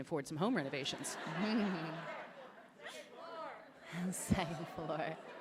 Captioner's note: laughter